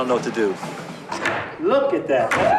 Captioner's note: wood tapping